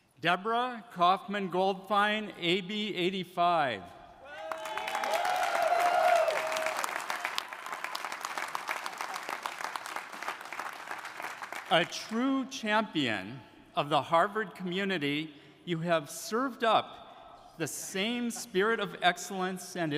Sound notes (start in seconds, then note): 4.2 audience cheering; 4.3 audience applauding